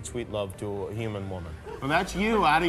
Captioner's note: audience laughter